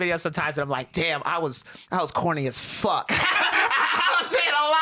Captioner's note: laughs